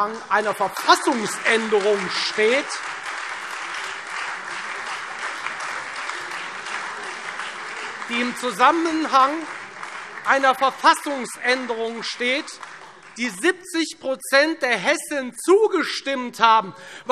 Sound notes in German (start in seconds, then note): 2.8 Beifall Freie Demokraten und SPD